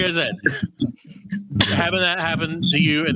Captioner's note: laughs